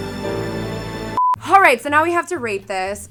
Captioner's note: ominous music; beep